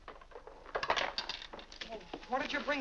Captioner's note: violin clatters down